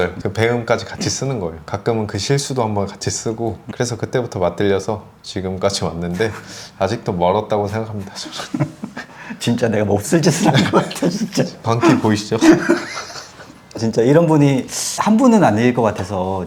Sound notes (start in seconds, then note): 8.2 laughs apologetically; 13.0 laughs out loud